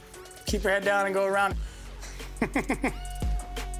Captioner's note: laughs